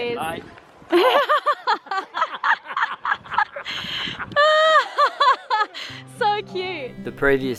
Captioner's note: laughter